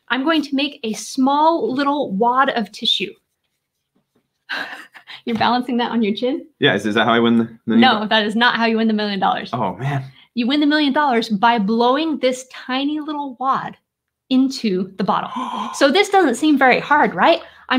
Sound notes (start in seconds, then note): 4.5 laughing; 15.2 gasps